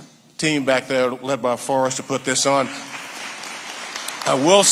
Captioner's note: audience applauding